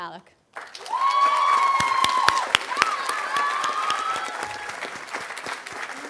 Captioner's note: audience applauding and cheering